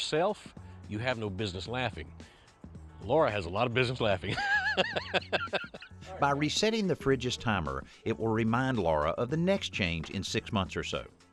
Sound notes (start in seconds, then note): 4.2 laughter